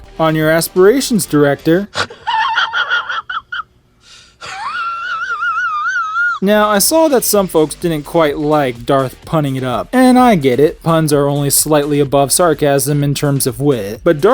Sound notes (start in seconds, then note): 1.9 man snorts and laughs; 4.0 man wheezes